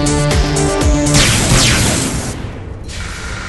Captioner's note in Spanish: dos disparos de blaster